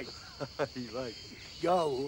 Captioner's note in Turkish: Gülme sesi